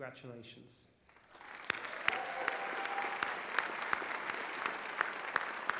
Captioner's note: applause